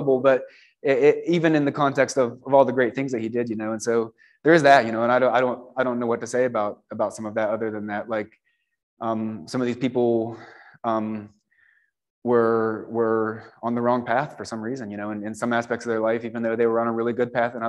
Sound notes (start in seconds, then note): none